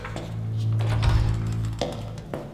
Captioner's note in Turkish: Kapı açılma sesi